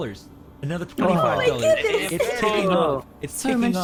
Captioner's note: all excited chatter again